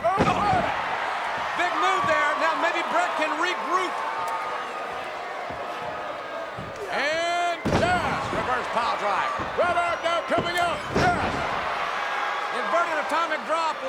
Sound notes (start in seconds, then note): 0.0 Stone Cold thudding; 0.2 crowd cheering; 11.8 crowd cheering